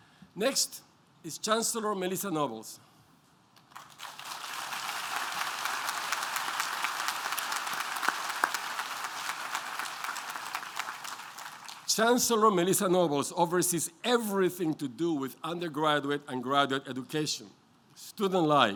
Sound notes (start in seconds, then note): 2.8 applause